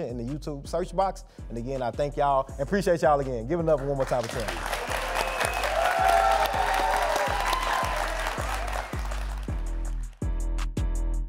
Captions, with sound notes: in the YouTube search box. And again, I thank y'all. And appreciate y'all again. Give it up one more time for Tim. (audience applauds) (upbeat music)